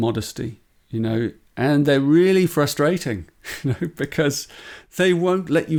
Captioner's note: laughs